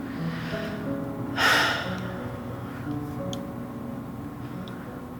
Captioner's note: sighs